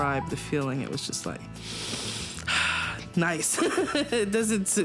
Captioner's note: deep breath; laughs